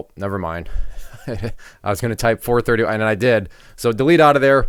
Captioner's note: laughs